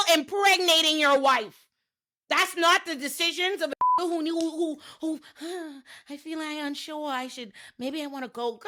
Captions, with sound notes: impregnating your wife. That's not the decisions of a-- (beep) "Oh, I feel I'm unsure. I should, maybe I wanna go."